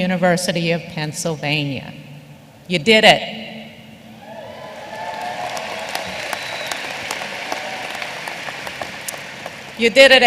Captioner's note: applause